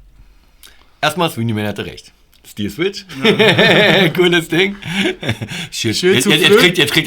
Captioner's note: laugh